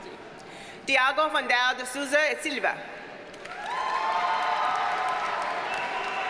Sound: audience cheers and applauds

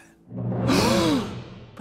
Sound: gasps

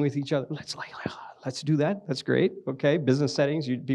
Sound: whispers

